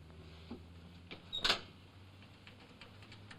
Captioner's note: door opens; typewriter chattering in distance